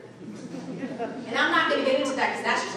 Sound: audience laughing

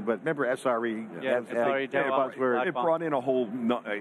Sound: group chattering

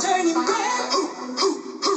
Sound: voice crack

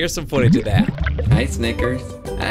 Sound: bubbles gurgle

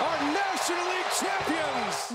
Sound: cheers and applause

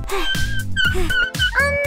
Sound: wheels creaking

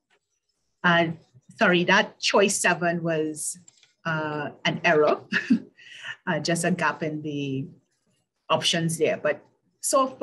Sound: laugh

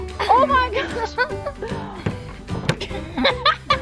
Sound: laughing

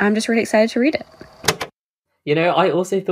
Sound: tape recoder clicks off

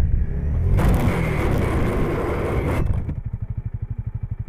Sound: loud metal scraping

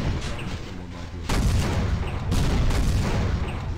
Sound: explosion; rapid explosions

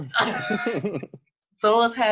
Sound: laughing

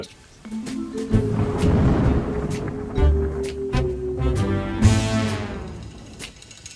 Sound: soft playful music; thunder crashing

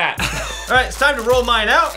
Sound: laughter

